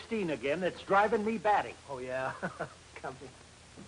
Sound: laughs

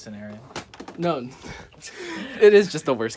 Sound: laughter

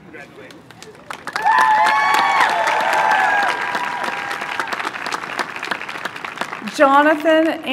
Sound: applause

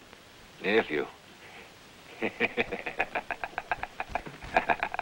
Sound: chuckling

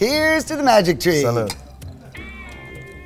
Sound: glasses clink; funky instrumental music

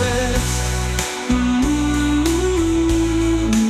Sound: humming

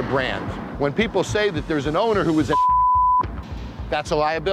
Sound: beep

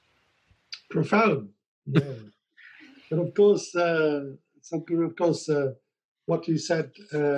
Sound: laughs

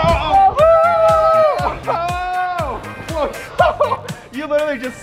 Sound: laughing

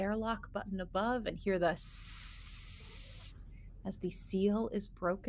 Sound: person hissing

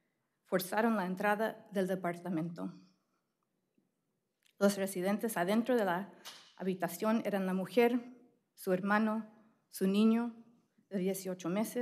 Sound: speaking spanish

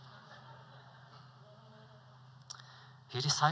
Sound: laughter

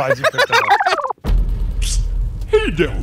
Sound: film rewinding; voiceover

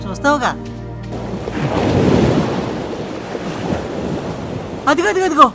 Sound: waves rumbling

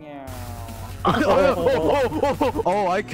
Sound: tall man hurt sounds

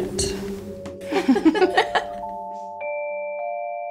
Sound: Andromeda and Narcissa laughing; mysterious music box music

